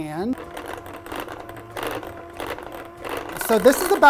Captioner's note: mixer whirring